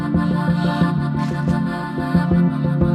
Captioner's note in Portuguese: Cliques da câmera